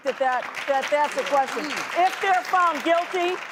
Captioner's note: applause